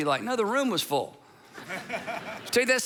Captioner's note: congregation laughing